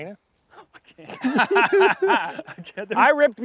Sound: laughter

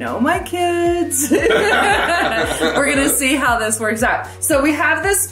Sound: laughs

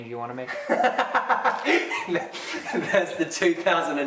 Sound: laughter

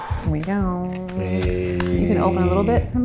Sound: sighs

